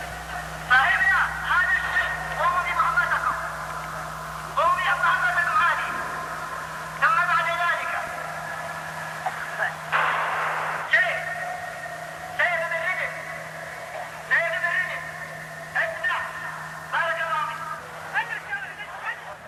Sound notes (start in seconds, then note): 0.8 speaking in Arabic; 9.9 gunshots; 11.1 speaking in Arabic